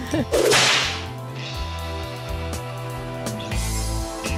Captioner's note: laughing; bull whip; western music